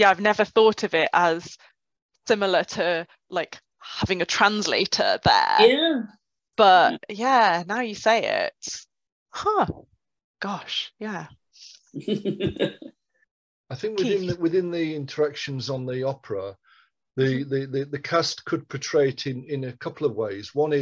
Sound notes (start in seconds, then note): 11.9 laughs